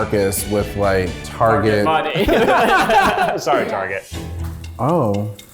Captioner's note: laughs